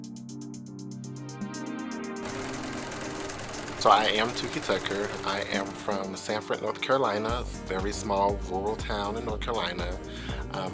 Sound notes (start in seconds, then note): 0.1 upbeat music; 2.2 projector whirring